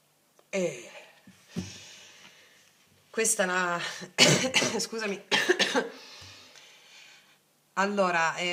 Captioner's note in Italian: schiarire la voce